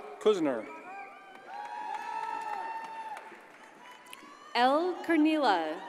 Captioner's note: audience cheers and applauds